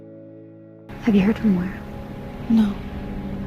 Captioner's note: voiceover